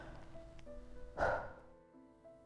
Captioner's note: sad sigh